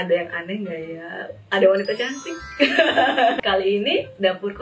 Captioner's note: laughs